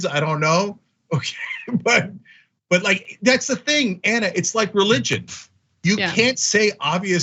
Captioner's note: laugh